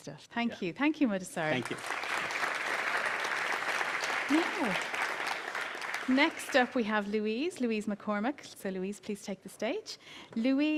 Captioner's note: applause